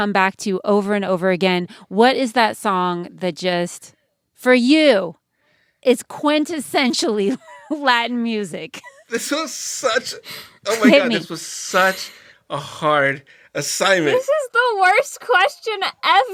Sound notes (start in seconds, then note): 6.8 laughter